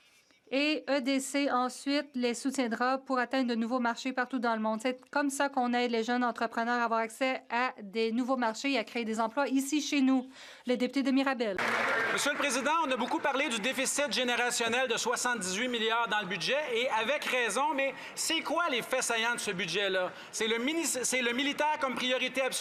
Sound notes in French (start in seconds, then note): 15.7 voix de l'interprète